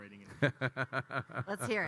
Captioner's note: Kyle laughing